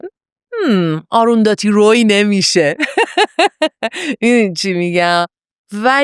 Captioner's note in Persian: خنده